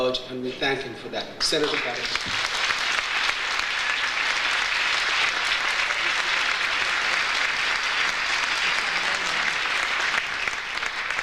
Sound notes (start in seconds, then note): 2.4 audience applauds; 7.7 audience applauds